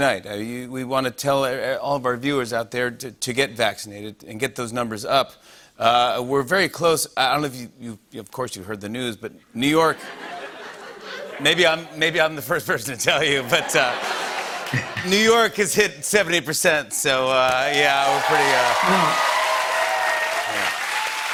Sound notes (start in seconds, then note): 9.9 laughter; 13.2 laughter; 19.0 cheers and applause